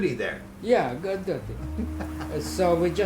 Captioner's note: laughing